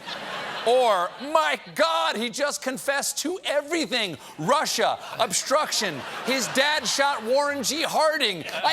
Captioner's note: laughter